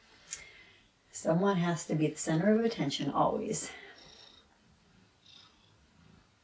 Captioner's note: purrs